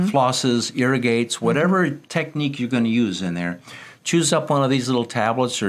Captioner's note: none